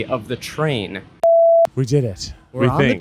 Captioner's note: beep